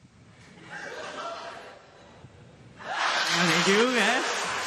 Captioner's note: scattered laughter